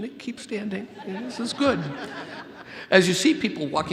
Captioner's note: audience laughs